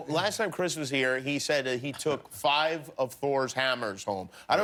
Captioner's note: laughter